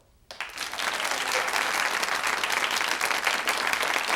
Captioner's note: audience applauds